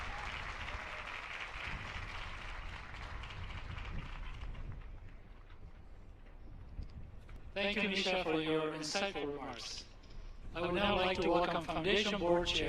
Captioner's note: applause